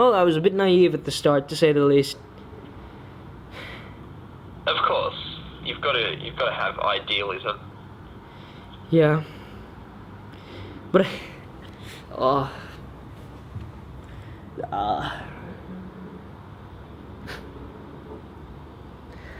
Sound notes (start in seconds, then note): 3.5 sighs; 14.1 sighs; 14.5 groans